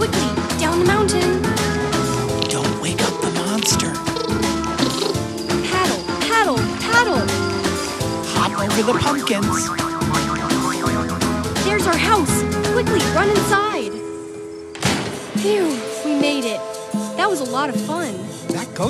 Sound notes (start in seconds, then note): 3.4 monster chattering; 10.0 characters boinging; 10.0 upbeat music; 14.7 door clanking